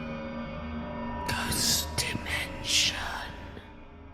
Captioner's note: ghostly Voice